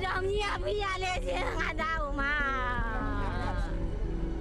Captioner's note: speaking foreign language